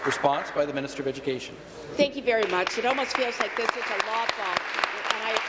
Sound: applause

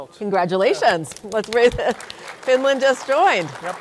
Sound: audience applauding

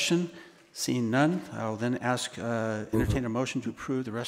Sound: board member mumbles

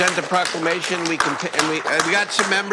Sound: applause

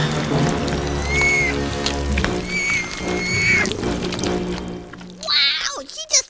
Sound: whimpering

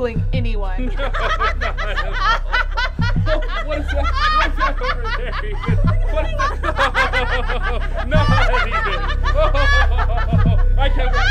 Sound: laughter

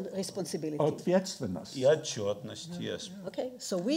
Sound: speaking in foreign language

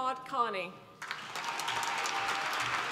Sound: applause

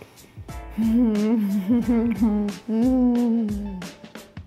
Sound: giggles

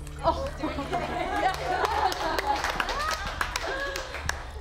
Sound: queens applauding

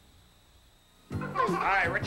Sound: kids giggling

